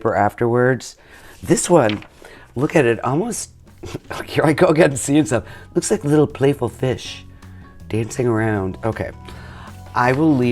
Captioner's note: laughs